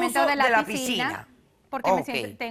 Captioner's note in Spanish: Hablan al unísono